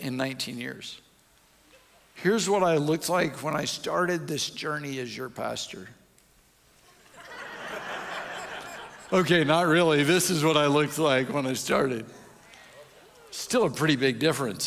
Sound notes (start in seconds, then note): 0.0 audience chuckles; 6.9 audience laughs